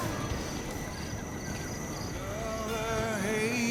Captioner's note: crickets